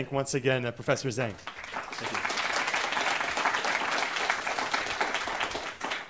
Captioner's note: applause